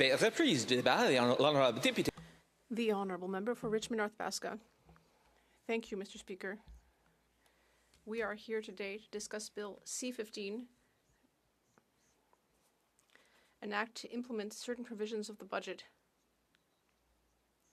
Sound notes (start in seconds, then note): 13.1 speaking French